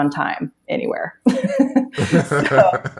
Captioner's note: both laughing